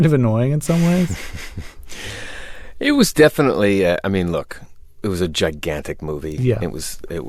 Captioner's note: laughter